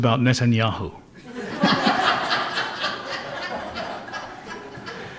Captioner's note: laughter